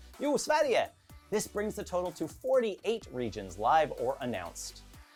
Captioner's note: speaks Swedish